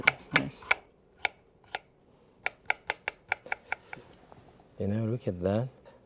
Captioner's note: knife tapping